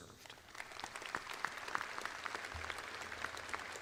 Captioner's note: audience applauds